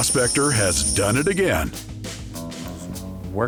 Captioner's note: coins jingling